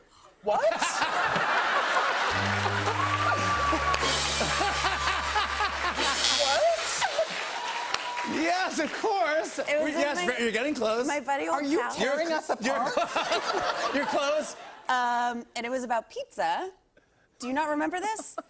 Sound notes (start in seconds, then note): 0.6 laughter; 2.8 cheers and applause; 5.4 buzzer; 12.8 laughter